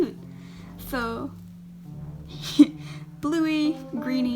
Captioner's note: laughs